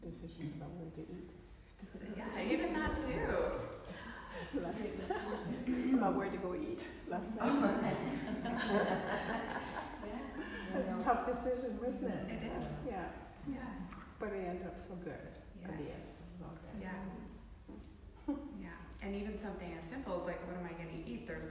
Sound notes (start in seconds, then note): 7.3 trainees laughing